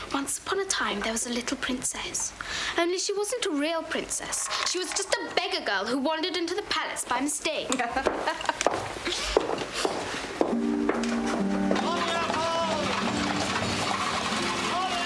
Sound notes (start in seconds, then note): 7.6 laughing; 10.0 gentle solemn music